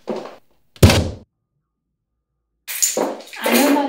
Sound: title thuds

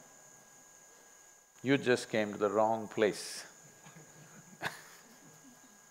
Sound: laughs

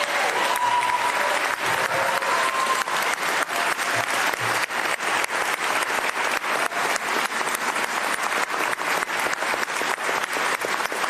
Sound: cheers & Applause

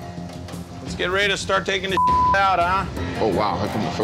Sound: beep

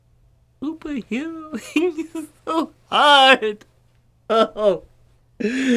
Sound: unintelligible crying

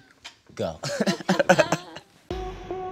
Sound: chuckles

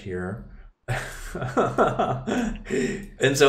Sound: laughing

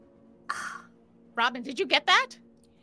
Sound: Fairuza gasping

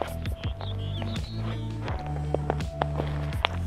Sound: bird singing

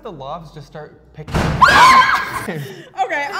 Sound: loud bang

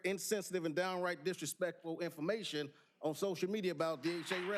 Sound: applause

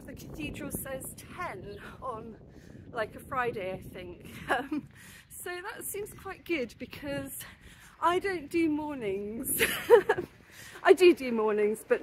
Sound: laughing

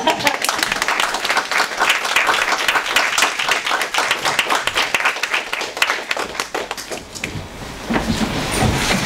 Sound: audience applauds

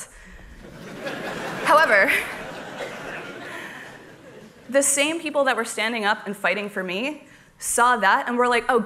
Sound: laughter

